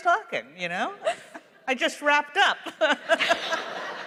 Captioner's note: laughter; laughs